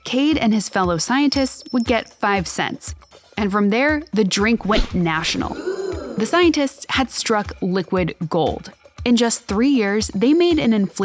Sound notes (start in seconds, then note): 5.2 crowd gasping